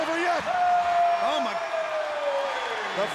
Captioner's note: attendees cheering